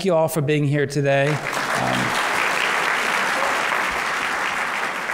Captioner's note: applause